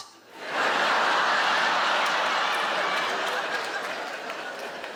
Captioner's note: audience laughing